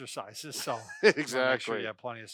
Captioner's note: laughs